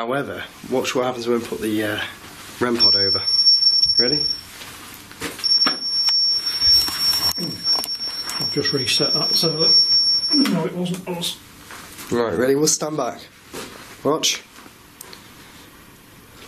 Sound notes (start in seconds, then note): 2.7 loud beeping